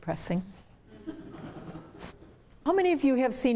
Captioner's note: laughter